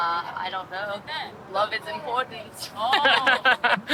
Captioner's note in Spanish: risas